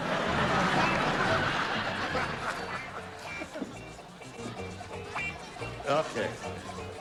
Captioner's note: laughter